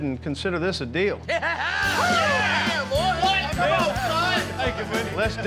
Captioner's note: cheering